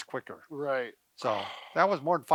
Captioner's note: exhales